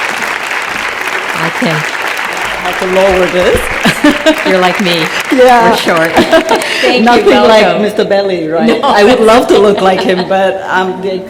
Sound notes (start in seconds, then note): 8.7 laughter